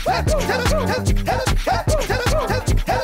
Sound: woo woo

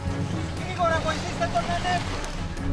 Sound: shouting in Greek

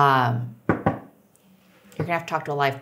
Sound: table knocks

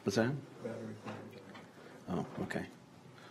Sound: councilor speaks off mic

